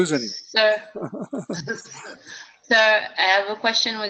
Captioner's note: laugh